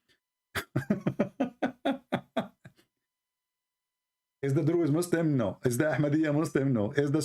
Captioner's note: Ketawa